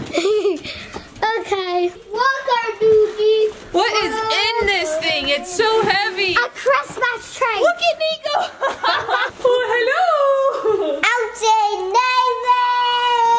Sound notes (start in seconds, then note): 0.0 laughing; 8.2 laughing